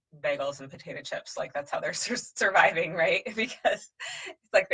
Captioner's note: laughs